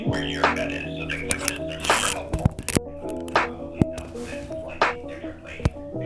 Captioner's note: recorded voice in background